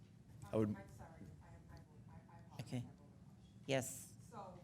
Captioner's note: speaking faintly